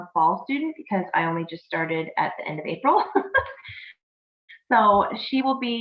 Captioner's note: chuckling